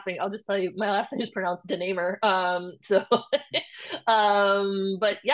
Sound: laughs

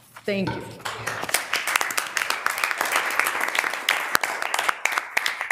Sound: audience applauding

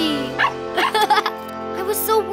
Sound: laughing

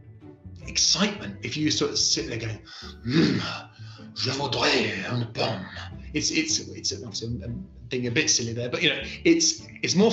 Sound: speaking french

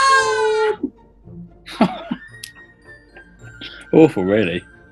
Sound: giggling and wailing; giggling

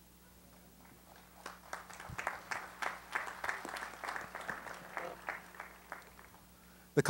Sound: applause

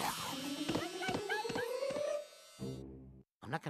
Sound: yelping

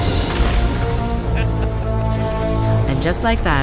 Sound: explosion booms; laughs

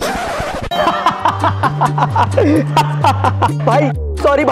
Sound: laughing

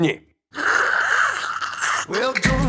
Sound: sucking

